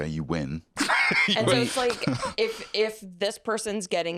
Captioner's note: laughs